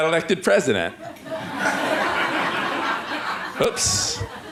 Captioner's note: laughter